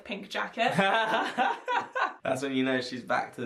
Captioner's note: laughing